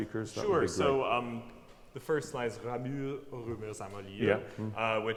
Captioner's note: speaks French